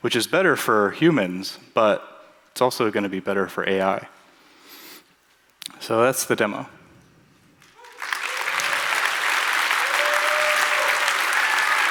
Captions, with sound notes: which is better for humans, but it's also going to be better for AI. So that's the demo. [APPLAUSE]